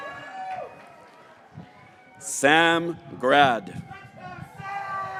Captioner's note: graduates cheering